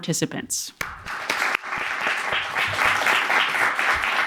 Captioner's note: audience clapping